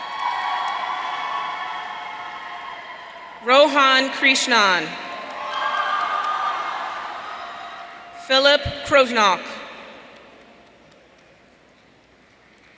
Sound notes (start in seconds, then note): 0.0 audience cheering